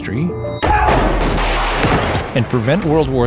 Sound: banging

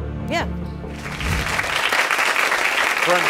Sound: audience clapping

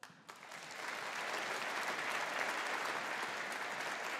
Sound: audience applauding

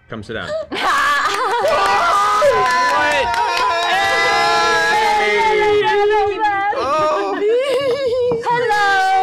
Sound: cheering

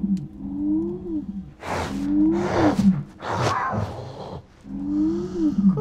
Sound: growling

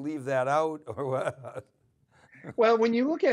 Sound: chuckles

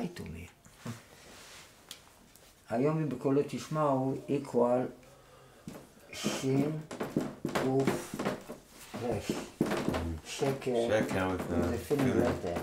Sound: in Hebrew

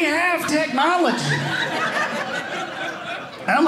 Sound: audience laughing

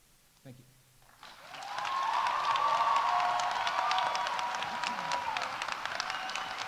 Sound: audience applauding; audience cheering

